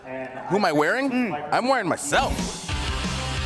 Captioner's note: crowd cheering